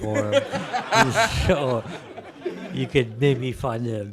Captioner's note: laughter